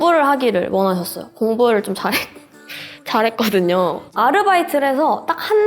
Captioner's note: laugh